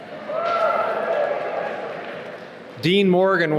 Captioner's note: cheering